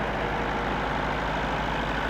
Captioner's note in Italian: engine sound